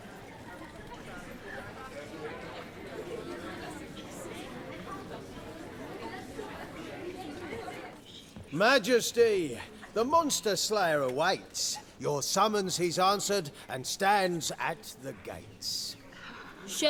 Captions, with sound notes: [indistinct chattering] [chatter dies down] Majesty, the monster slayer awaits. Your summons he's answered and stands at the gates.